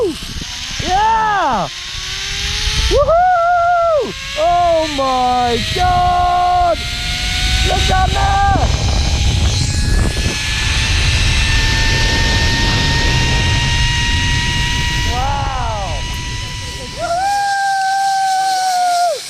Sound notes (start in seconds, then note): 0.1 whirring; 4.3 whirring; 9.1 whirring and air turbulence